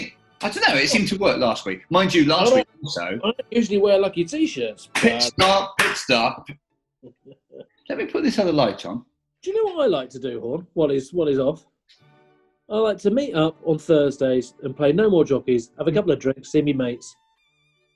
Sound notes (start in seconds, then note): 4.8 claps in time